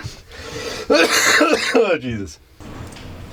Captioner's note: laughs; coughs